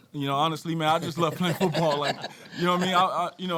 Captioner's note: panel laughing